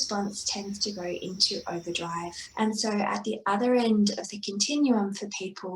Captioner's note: SFX: buzzing, chirping stops